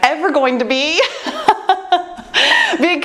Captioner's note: laughs